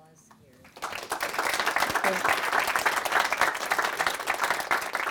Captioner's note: audience applauding